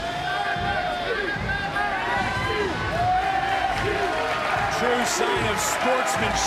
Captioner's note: crowd chants "nxt"